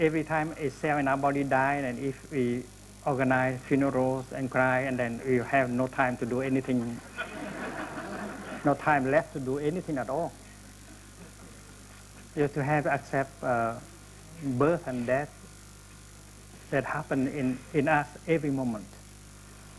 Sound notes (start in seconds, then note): 7.0 laughter